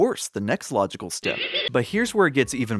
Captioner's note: Scooby-Doo laughing